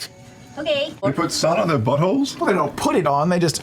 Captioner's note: mean old lady voice; incredulous